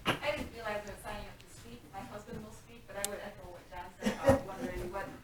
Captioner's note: woman speaking off microphone